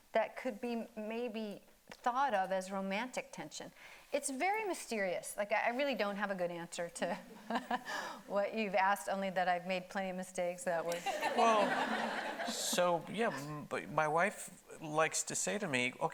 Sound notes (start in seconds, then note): 8.5 laughs; 11.0 audience laughing